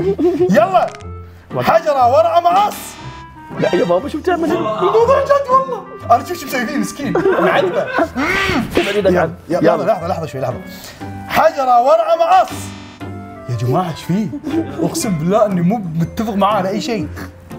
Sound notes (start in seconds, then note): 0.0 giggling; 8.2 grunts